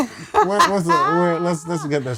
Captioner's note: nerdy laughs